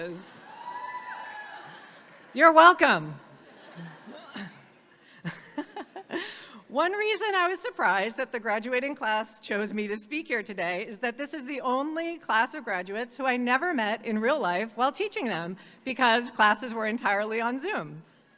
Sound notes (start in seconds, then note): 0.4 audience cheering; 3.3 audience laughing